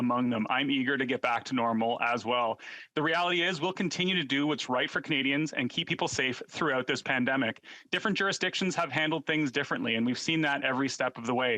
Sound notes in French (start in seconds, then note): 0.0 voix de l'interprète